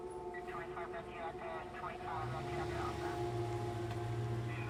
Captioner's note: radio chattering